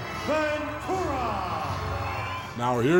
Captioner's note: audience cheering